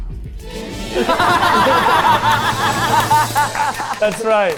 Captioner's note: all laughing